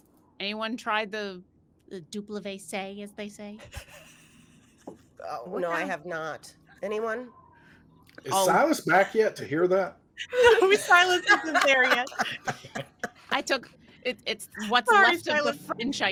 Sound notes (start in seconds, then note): 1.8 speaks foreign language; 10.2 indistinct chatter and laughing